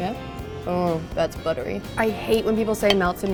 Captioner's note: moans